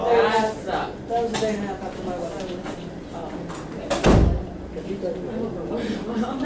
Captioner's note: voiceover